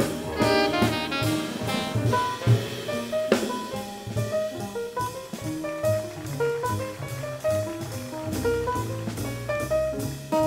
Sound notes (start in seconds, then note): 2.6 jazz music softens; 6.4 audience applauds